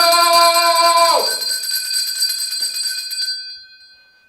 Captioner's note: bell noise